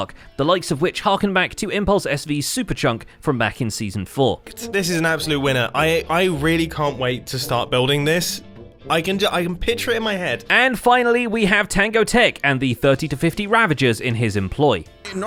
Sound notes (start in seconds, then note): none